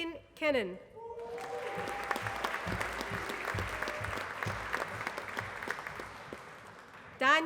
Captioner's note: applause